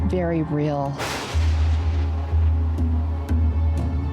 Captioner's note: thunder roars